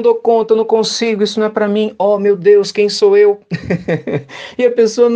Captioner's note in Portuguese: risadas